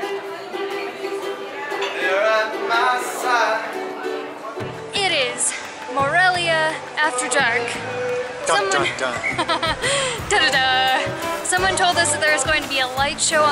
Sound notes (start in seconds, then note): 8.8 laughter